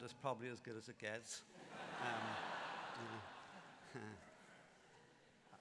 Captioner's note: laughter